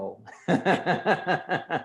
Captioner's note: laughs loudly